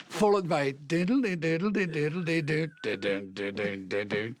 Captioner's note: humming